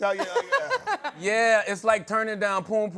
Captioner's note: laughter